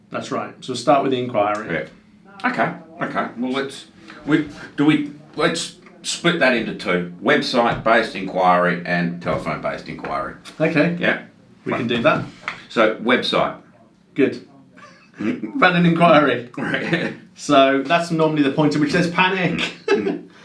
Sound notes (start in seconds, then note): 14.8 laughs